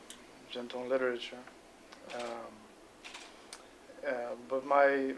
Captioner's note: non-english speech